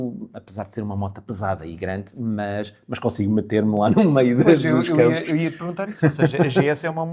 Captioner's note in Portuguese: risadas